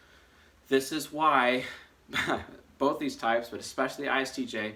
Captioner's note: chuckles